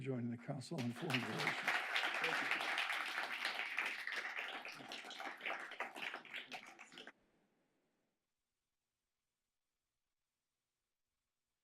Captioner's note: applause